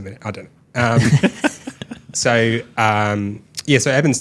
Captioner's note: laughing